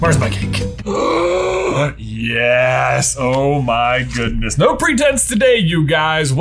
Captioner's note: gasps